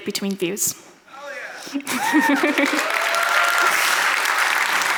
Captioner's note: audience applauds